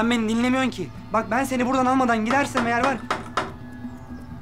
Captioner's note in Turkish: Kapı vuruluyor